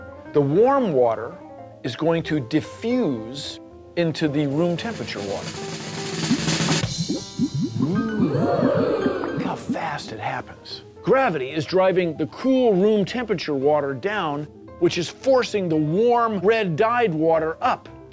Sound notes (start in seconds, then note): 4.6 drumroll; 7.9 impressed exclamations